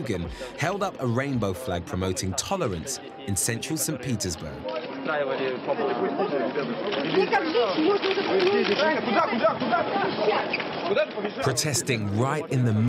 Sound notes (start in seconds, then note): 4.7 cameras clicking; 4.7 speaking in foreign language